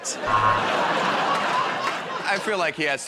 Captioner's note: laughter